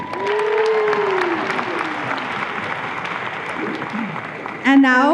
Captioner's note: audience applause